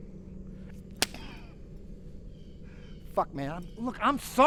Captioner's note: slap cracking